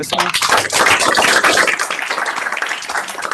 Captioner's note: applause